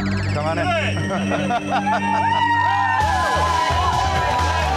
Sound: customers cheering

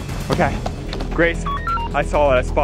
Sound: digital beeps

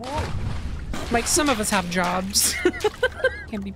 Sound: laughter

